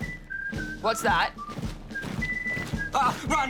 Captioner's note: marching footsteps approach